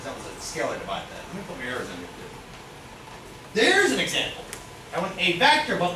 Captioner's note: speaks softly